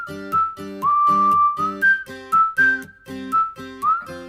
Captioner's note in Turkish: ıslık çalar